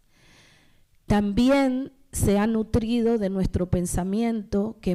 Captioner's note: speaking spanish